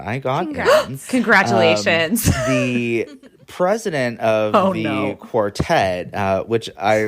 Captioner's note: gasps